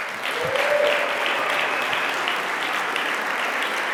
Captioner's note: audience applauding